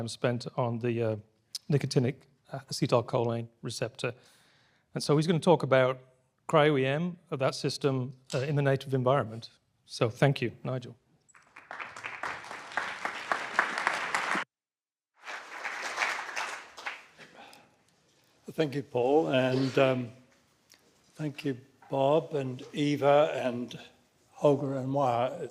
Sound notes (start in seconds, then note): 11.3 applause